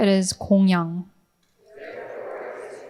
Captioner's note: speaking in foreign language